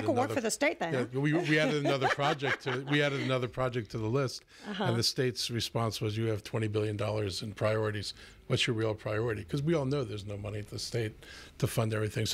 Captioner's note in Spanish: Hablando ingl\s